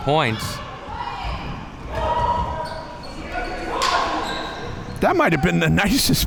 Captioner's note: spectators cheering and chattering